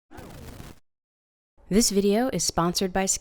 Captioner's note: Static